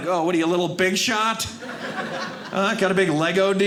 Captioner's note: audience laughing